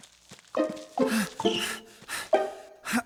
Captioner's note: panting; groans of effort